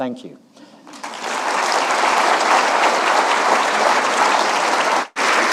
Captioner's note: audience applauding